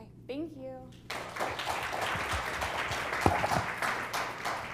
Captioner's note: applause